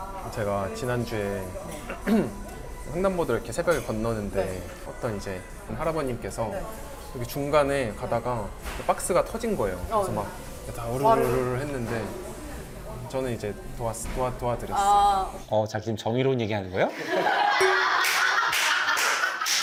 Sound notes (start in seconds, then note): 1.7 clearing his throat and sharing his story